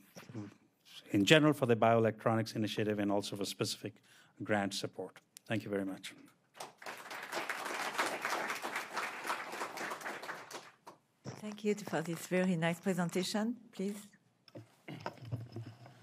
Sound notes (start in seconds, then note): 8.5 applause